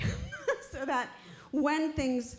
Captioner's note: laughing